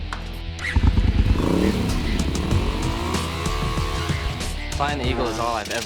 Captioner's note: motorcycle revving